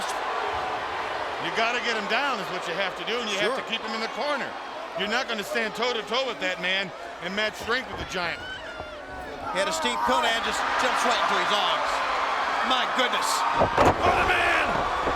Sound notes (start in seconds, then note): 9.3 spectator shouting; 13.5 feet thumping